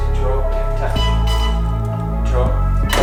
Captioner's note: machine beeps